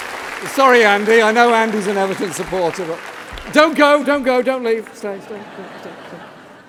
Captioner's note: applause